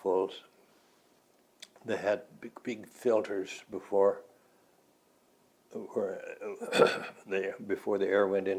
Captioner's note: clears throat